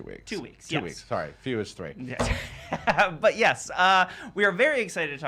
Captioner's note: laughs